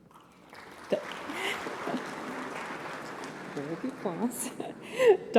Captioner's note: applause